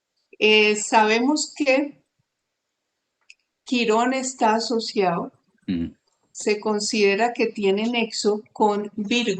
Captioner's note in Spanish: carraspeo